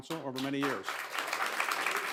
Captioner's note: applause